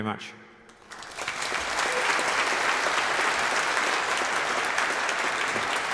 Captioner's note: applauds